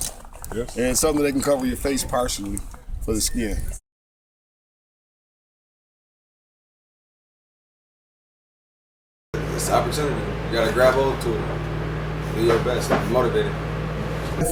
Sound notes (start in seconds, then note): 4.0 silence